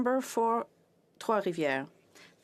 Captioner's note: speaking French